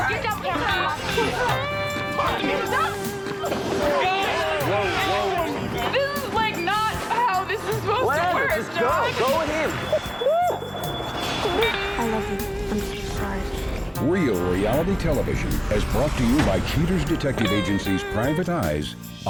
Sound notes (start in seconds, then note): 2.3 shouting; 9.9 crying